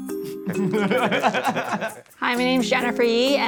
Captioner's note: producer laughs